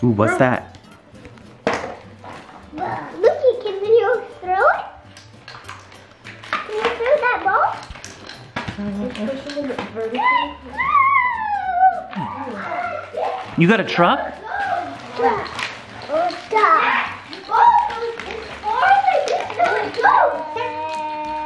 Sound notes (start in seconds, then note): 15.5 children chattering